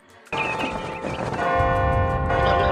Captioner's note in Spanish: bing; bong; bong bong